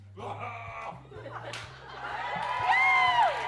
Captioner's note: roars; audience cheers